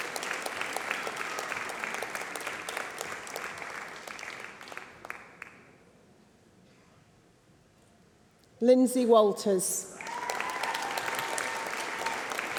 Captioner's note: applause